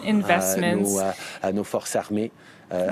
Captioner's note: speaking French